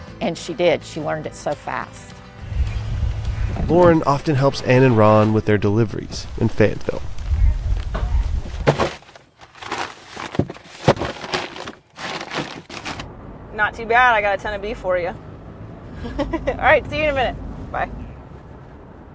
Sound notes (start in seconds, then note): 16.0 laugh